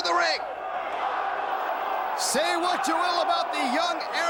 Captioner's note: crowd chatter